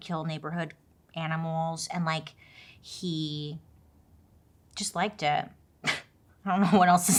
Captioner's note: laughs